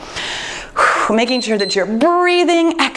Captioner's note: timer beeps